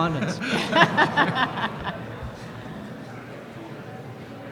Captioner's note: laughter